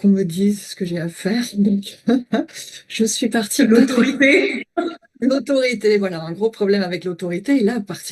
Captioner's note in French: rires